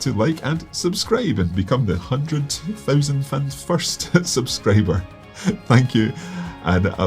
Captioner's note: laughs